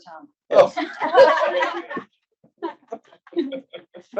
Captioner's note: laughing